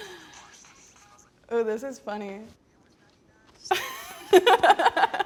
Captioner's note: laughs